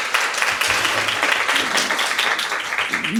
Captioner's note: applause